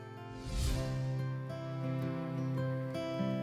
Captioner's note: whoosh sfx; inspiring music